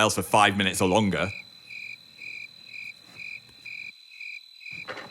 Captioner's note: crickets chirping